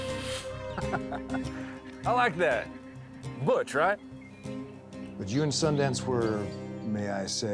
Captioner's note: laughs